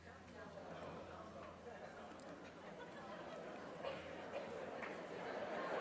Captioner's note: crowd murmuring and laughing